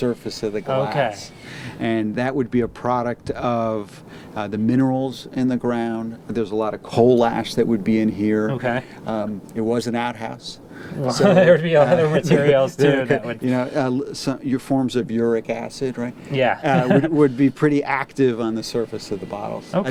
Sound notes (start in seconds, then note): 11.0 laughing; 16.4 laughs